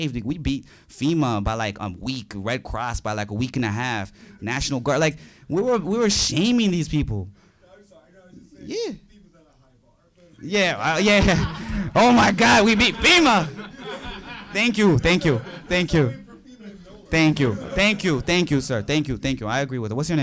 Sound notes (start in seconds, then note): 10.5 audience laughing